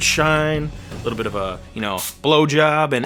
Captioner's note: spray hissing